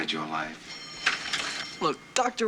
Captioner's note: bell rings